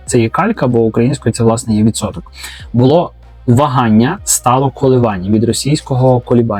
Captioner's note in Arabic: تردد